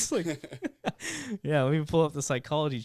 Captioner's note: laughing